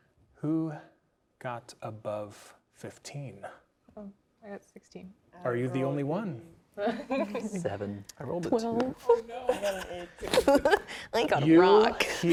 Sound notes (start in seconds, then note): 6.8 laughing; 9.2 laughing